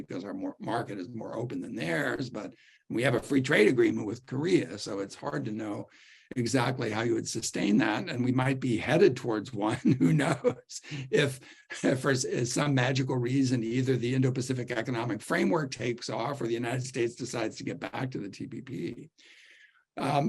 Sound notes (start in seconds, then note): 9.7 laughter